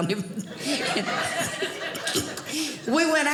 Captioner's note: audience laughing